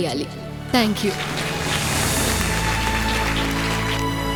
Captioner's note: applause